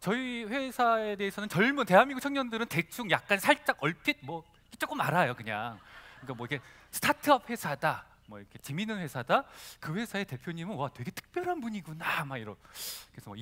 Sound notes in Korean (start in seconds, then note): 5.6 웃음